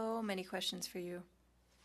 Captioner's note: speaking French